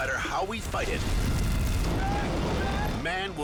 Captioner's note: fire roaring